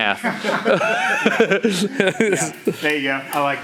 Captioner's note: laughs loudly